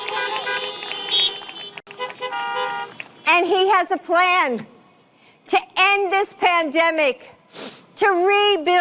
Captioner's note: horns honking